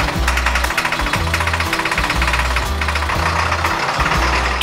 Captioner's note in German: Lautes Motorenknattern, heitere Musik